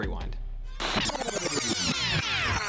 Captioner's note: distorted sound